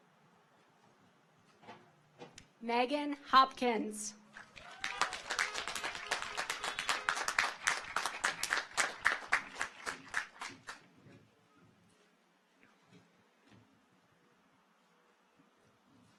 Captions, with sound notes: Meagan Hopkins. (audience applauds) (car horns honking)